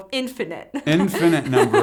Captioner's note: laughs